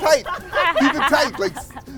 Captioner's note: laughter